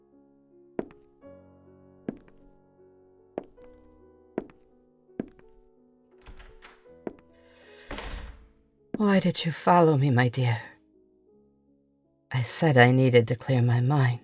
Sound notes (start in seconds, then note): 0.7 new footsteps, door opening and closing